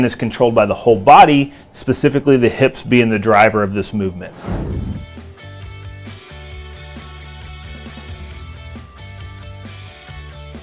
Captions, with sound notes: is controlled by the whole body specifically the hips being the driver of this movement. (swooshing) (upbeat rock music)